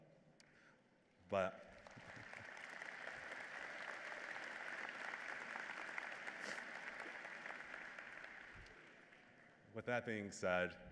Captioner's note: applause